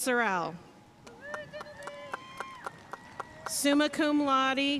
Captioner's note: audience cheering and applauding